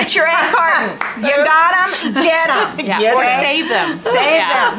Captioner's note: laughs